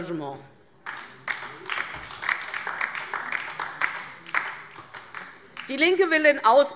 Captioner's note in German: Beifall DIE LINKE